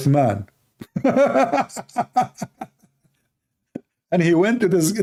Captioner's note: Ketawa